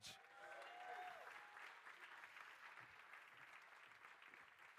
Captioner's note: crowd cheering and applauding